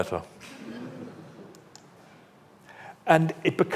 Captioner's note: audience laughs